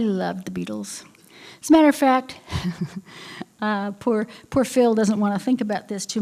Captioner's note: laughter